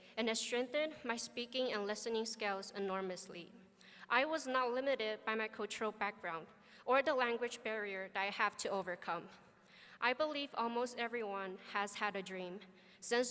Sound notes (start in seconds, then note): none